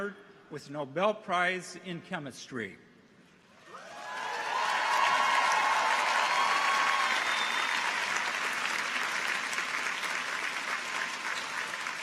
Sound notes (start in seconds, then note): 3.7 audience cheers; 3.7 audience applauds